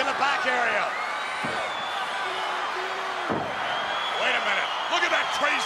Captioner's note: fists pounding